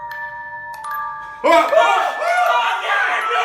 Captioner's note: freak out